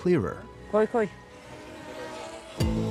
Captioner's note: speaking Turkish